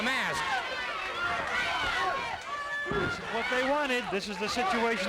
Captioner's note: crowd yelling